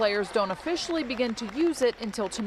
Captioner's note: cheers and applause